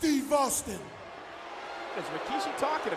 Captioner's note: audience booing